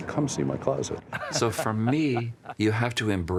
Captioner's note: laughing